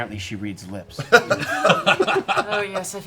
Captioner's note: laughter